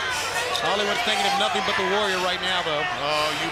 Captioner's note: crowd chatter